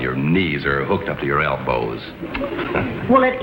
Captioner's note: laughs